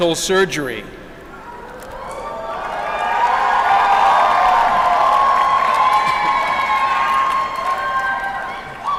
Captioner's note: applause